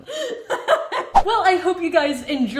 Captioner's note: laughing